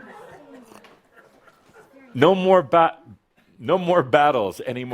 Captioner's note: some chuckles